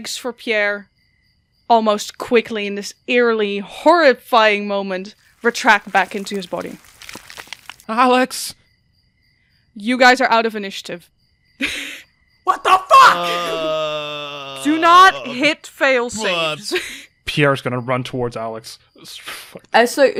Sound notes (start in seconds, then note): 5.2 sounds of bones cracking; 13.1 lets out a long groan